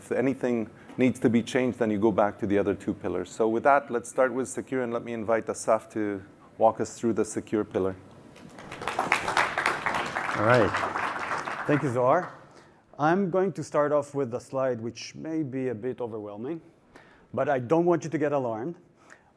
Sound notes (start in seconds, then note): 10.2 applause